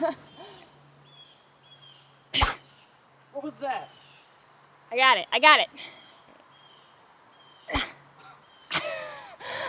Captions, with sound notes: (stick whooshes) What was that? - I got it, I got it. (Donna grunts)